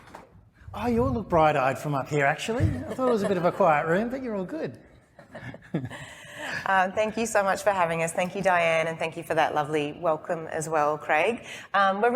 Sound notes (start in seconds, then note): 5.2 both laughing